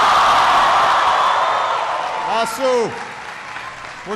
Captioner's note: applause